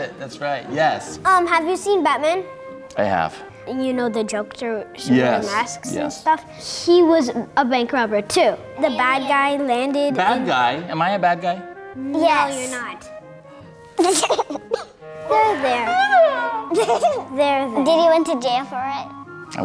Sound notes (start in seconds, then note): 13.3 fake cries; 15.4 kids laugh